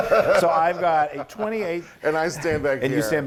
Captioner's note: laugh